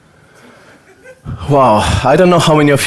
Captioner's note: audience laughter; sighs